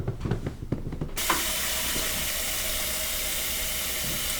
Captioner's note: water running